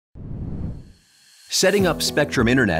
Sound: air whooshing

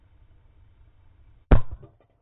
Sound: slow motion explosion sound

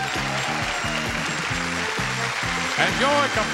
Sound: crowd cheering; exciting music

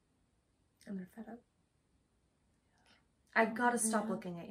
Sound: whispers

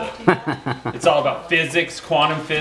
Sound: laughing

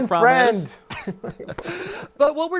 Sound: laughter

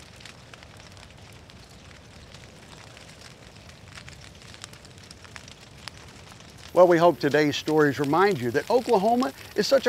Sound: fire crackling

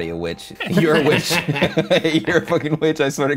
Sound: laughing

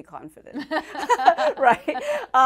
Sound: laughter

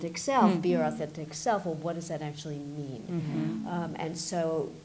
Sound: others agreeing

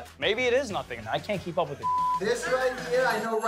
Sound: beep

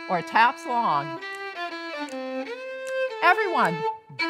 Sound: fingers snapping

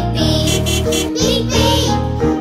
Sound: beeping

